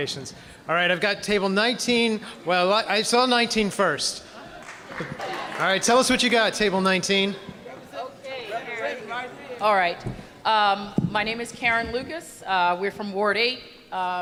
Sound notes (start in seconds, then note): 4.6 applause